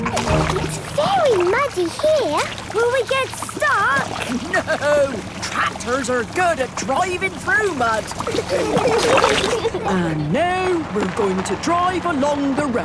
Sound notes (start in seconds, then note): 0.0 laughing; 8.1 giggling